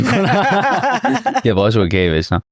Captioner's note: laughs